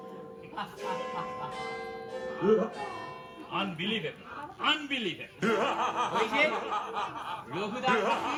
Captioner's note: Raghu da laughs in the background